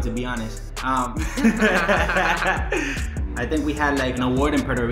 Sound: laughs

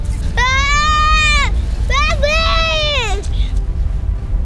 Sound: boy yelling

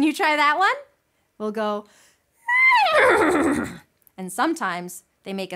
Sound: neighs

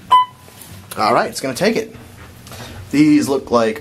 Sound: Otis audible signal chime

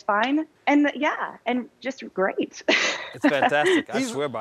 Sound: laughing

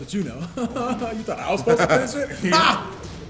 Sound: laugh

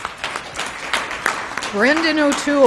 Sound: applause

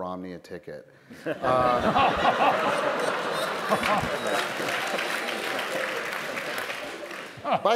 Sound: laughter & Applause

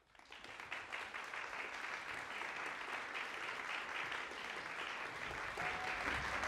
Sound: woo

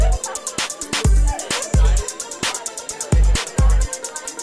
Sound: woman laughing

